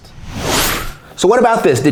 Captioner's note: logo explosion